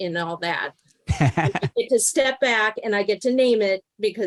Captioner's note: laughs